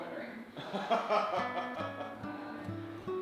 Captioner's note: laughing